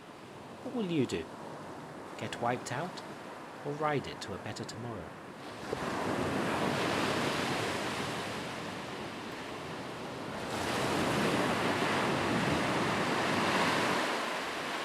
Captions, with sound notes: What will you do? Get wiped out or ride it to a better tomorrow? (waves crashing)